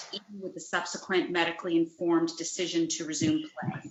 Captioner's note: distorted sound